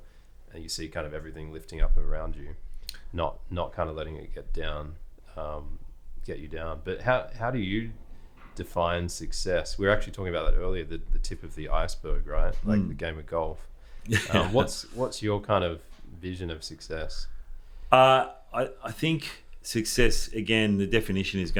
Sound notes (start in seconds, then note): 14.0 person laughing